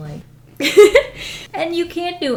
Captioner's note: laughs